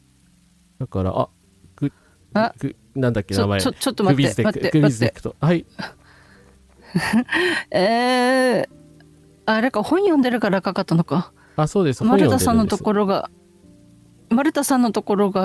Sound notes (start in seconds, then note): 6.9 laughter